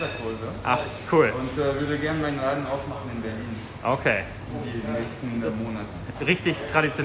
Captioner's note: speaking in foreign language